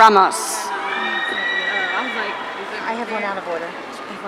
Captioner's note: audience cheering